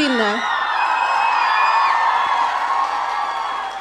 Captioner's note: audience cheering